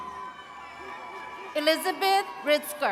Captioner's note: attendees cheering and clapping